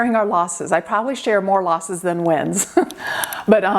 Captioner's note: laughing